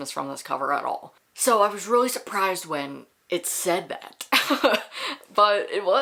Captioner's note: laughs